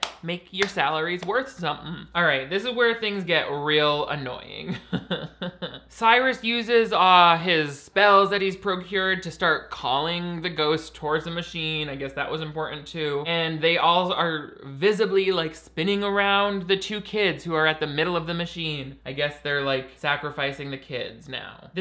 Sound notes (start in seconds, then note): 4.6 chuckles